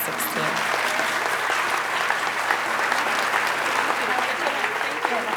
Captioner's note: audience applauding